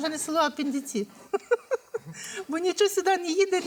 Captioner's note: laughs